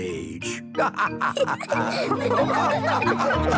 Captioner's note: all laughing